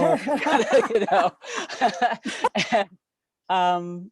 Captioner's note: laughing